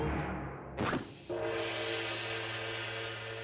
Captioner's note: bell tolling